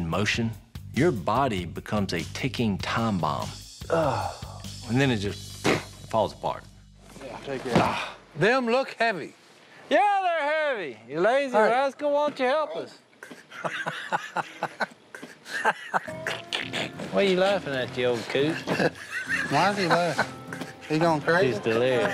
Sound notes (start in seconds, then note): 5.2 blows air; 13.1 laughs